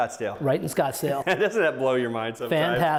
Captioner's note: laughs